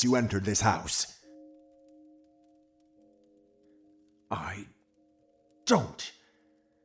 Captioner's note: the church bell chimes again outside the house